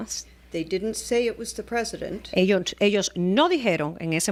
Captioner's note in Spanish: Hablando ingl\s